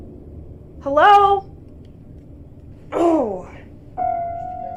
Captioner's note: groans